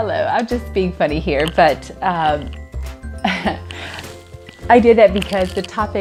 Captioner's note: laughs